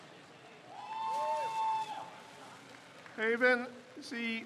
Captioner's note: crowd cheers